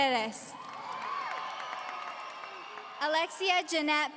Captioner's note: audience cheering